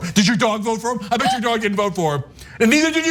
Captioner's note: laugh